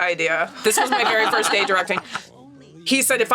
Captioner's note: laughs